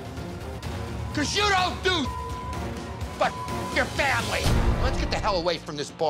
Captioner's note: beep